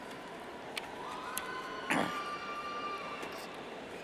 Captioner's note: cheers